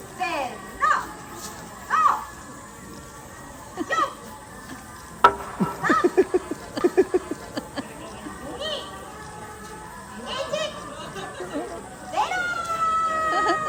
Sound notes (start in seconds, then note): 10.7 laughter